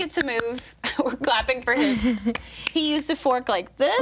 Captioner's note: group clapping quietly